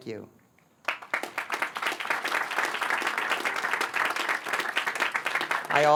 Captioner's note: applause